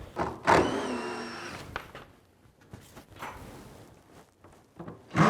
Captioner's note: drilling sounds